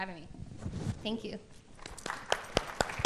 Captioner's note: applause